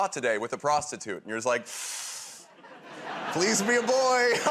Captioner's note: inhales sharply